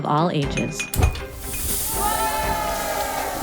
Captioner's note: glass clinking and whooshing; crowd